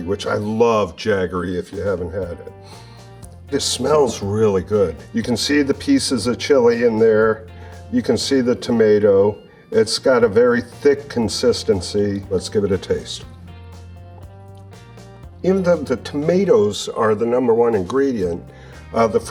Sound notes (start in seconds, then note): 2.6 sniffs; 12.3 lively rock music